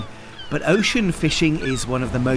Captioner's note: gulls squawking; water splashing